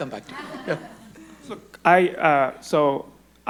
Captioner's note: audience laughing